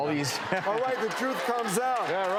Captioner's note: laughter